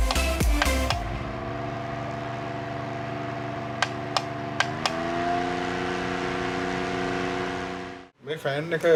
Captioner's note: fan sound